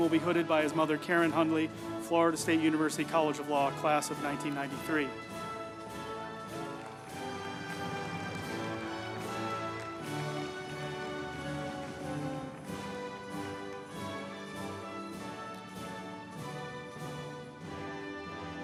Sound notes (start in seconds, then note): 5.7 group applauding; 5.7 uplifting music